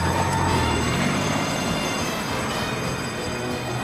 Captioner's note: car speeding off; alarms blaring; dramatic music